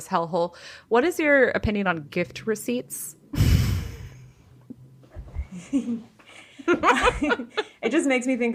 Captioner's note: giggles